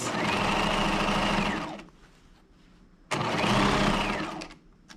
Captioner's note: sewing machine whirring